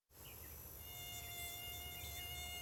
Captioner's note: mosquito buzzes